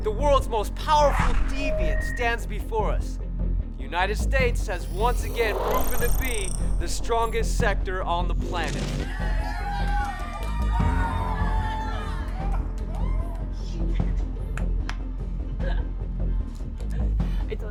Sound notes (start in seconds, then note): 9.0 cheering; 15.8 laughing